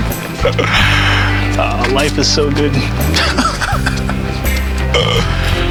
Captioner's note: laughing